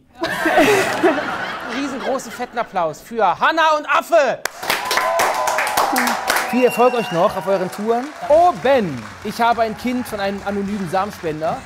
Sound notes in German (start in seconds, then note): 0.1 Lachen; 4.5 Jubel, Applaus